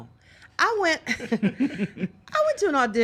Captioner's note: all laughing